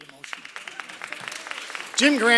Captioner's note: applause